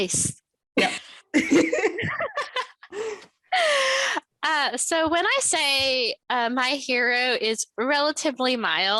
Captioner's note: laughter